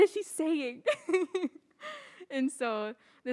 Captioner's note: laughs